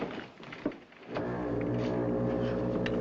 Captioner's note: foghorn Blows